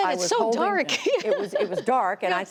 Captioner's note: laughter